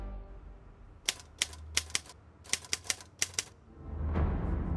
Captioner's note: typewriter clicking